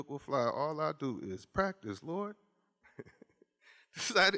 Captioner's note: laughs